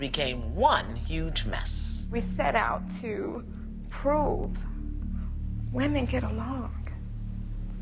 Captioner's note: voice breaking